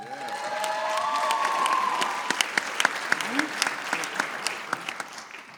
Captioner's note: applause